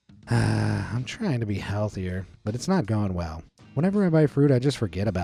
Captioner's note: sighs